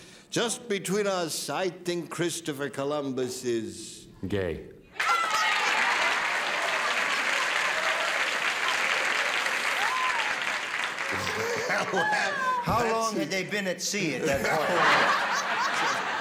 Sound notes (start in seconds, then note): 5.0 laughter and applause; 14.2 laughter